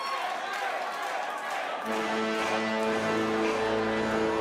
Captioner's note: crowd cheering